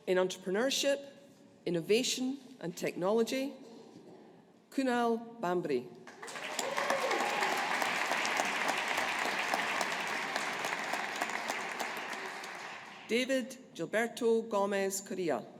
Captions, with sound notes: In Entrepreneurship, Innovation and Technology, Kunal Bhambry. (AUDIENCE APPLAUDING) David Gilberto Gomez Correa.